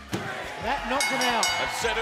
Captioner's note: bell ringing